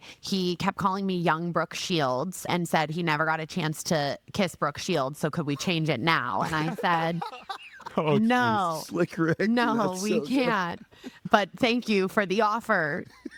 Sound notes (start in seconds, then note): 6.4 laughing